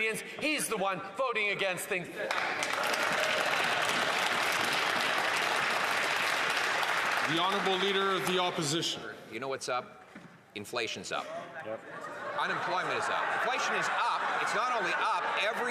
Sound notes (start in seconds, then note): 6.6 some Applause